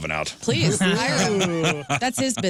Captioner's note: laughter